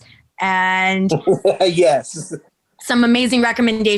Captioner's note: chuckling